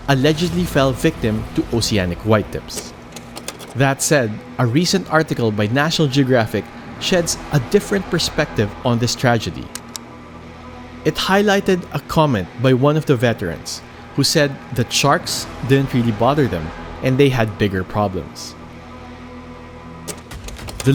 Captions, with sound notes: allegedly fell victim to oceanic whitetips. (image clicks) That said, a recent article by National Geographic sheds a different perspective on this tragedy. It highlighted a comment by one of the veterans who said the sharks didn't really bother them and they had bigger problems. (image clicks)